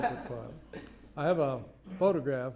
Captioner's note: laughter